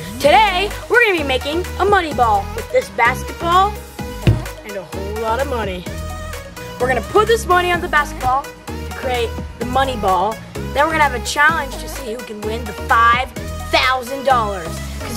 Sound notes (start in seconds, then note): none